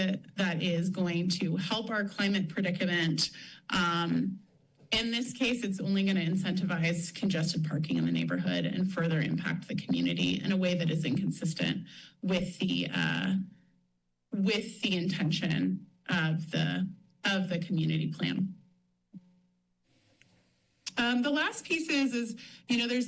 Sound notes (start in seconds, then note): 18.6 pause